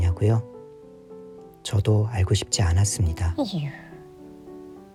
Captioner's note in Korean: 깊은 한숨